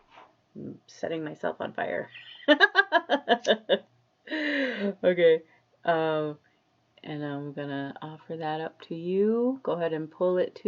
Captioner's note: laughs